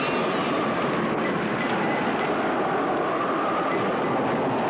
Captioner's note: thunder claps